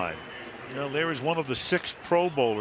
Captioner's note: pa announcement